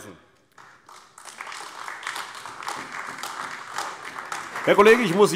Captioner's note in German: Beifall AfD